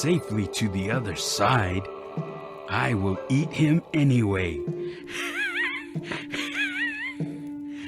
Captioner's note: evil laugh